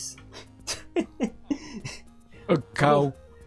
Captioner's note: laughs